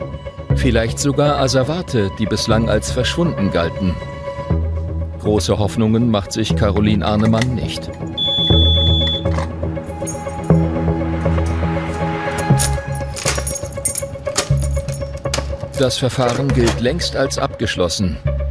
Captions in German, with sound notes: Vielleicht sogar Asservate, die bislang als verschwunden galten. Große Hoffnungen macht sich Carolin Arnemann nicht. (Piepsen) (Spannungsvolle Musik) Das Verfahren gilt längst als abgeschlossen.